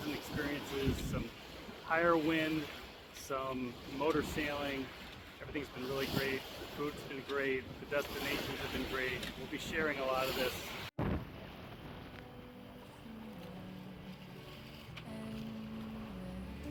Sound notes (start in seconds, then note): 11.6 wind blowing